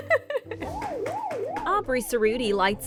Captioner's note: giggling; arcade machine warbling